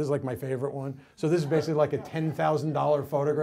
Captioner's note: audience laughs